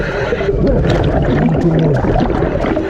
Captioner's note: water bubbles blowing